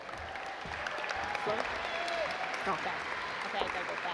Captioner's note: audience applaud